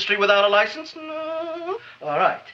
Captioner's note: Seymour whimpers